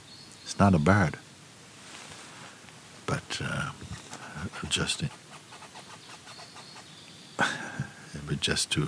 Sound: sounds of the trees

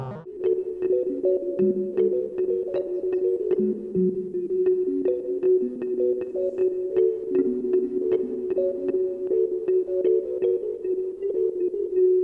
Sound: clicky warbling

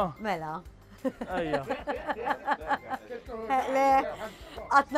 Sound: chuckles

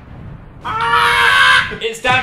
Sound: imitating explosion; Dan and Phil screaming

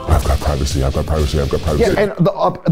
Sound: deep voice

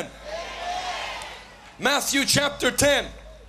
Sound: crowd shouting amen

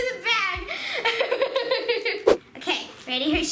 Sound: laughing

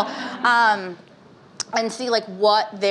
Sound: laughing

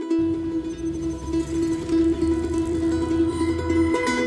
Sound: lighthearted instrumental music; electronic beeping

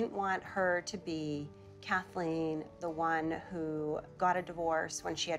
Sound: none

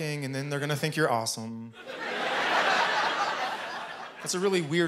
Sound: laughter

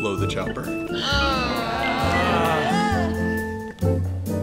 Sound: collective groan

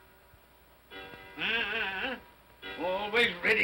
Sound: clock chimes; Scrooge grumbles

